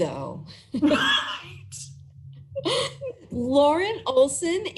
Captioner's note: laugh